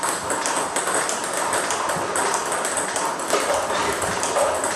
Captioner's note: balls ping pong hitting continues